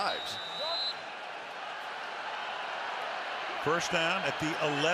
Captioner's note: whistle